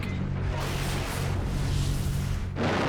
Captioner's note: explosion